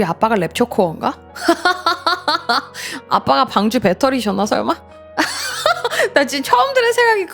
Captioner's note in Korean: 웃음